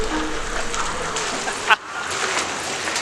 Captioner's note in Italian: Suono misterioso